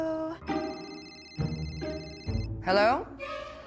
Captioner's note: phone ringing